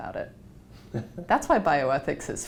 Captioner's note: laugh